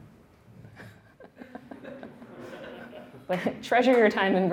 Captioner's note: laughing